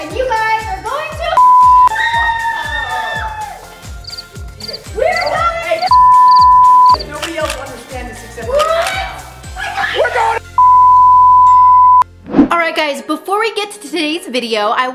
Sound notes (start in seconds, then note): 1.4 beep; 4.0 crickets chirping; 5.8 beep; 10.6 beep